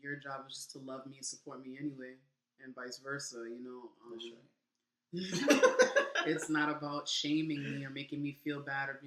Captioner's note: laughing